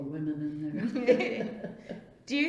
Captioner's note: laughs